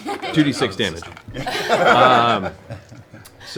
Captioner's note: laughter